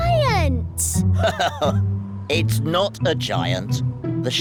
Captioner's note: laughs